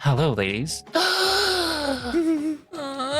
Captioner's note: gasps